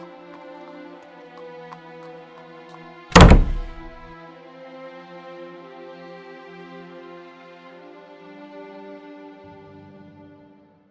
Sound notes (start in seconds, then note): 3.1 door shuts